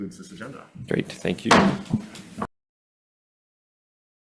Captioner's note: gavel bangs